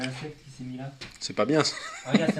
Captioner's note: laughs